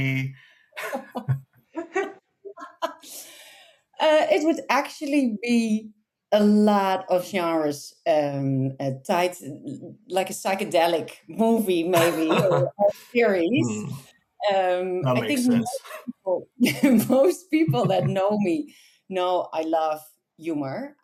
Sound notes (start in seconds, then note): 0.9 laughs